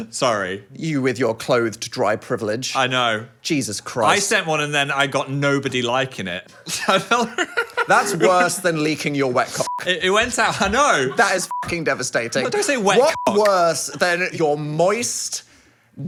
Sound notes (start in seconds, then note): 6.6 laughs; 9.6 beep; 12.9 beep